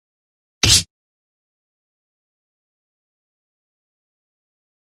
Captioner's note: smack!